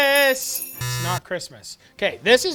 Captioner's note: buzzes